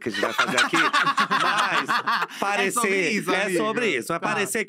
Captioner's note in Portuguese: risos